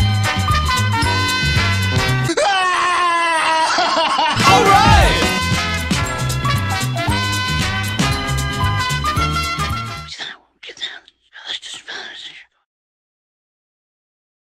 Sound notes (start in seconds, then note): 2.3 crying; 10.1 whispering